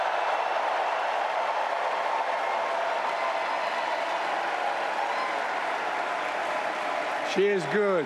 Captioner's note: applause